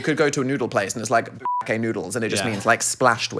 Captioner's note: beep